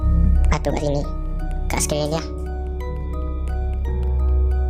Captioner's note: starts Speaking At High Speech